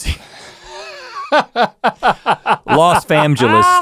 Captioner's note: laughing